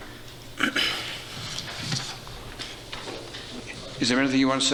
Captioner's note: clearing throat